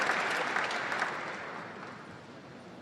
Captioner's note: applause